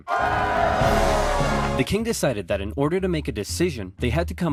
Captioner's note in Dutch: enorm applaus